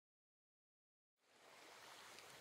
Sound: soothing Ocean Waves Sounds

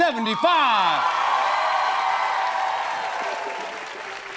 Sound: cheers

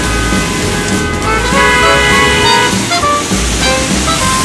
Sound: cars honking

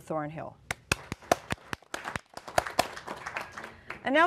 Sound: applause

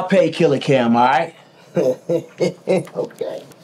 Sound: Biggie laughs

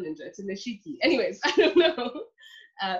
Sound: laughs

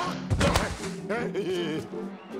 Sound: laughing

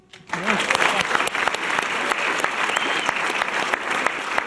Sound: audience applause

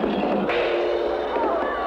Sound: gong!

